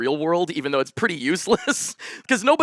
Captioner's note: chuckles